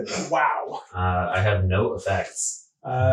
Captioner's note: laughing